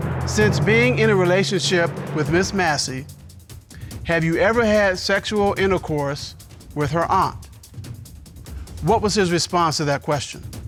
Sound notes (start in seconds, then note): none